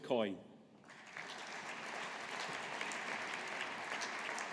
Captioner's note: audience applauding